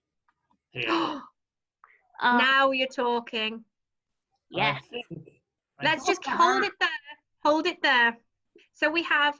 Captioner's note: gasp